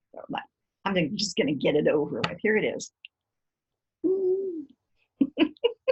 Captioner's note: laughter